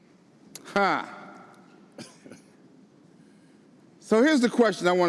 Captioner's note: laughs